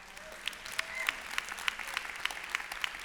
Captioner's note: applause